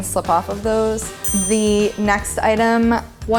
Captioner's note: ding